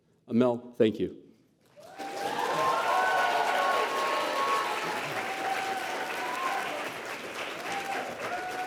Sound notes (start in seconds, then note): 1.7 applause